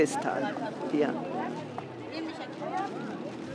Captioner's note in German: Stimmengewirr